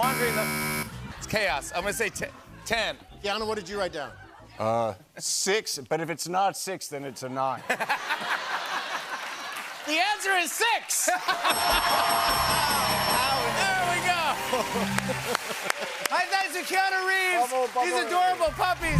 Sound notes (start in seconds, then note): 0.0 buzzer; 7.5 laughter; 11.2 laughter and applause; 11.5 ding!